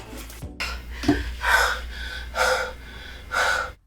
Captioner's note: panting